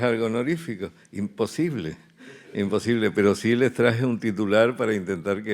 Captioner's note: speaking in Spanish